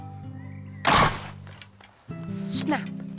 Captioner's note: trap snaps loud